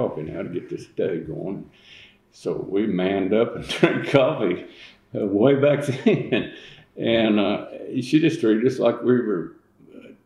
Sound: laughs

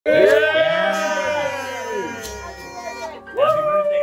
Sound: cheering, party horns

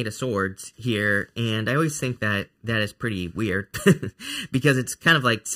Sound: chuckling

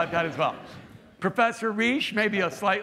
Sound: laughter

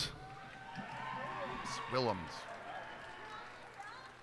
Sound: cheers and applause

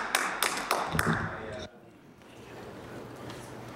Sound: some Applause

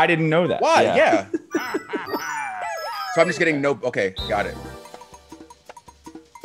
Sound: laugh

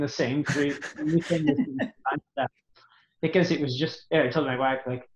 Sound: audio blurs

